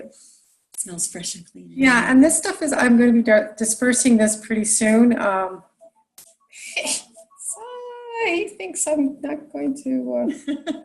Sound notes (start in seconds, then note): 6.9 phone ringing; 10.3 laughing